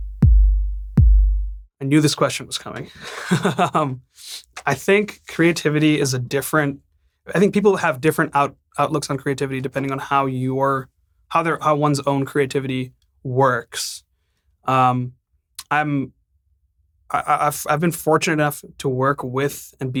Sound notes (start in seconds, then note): 2.9 laughing